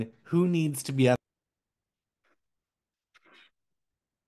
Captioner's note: audio cuts